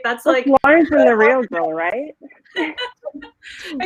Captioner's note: laughing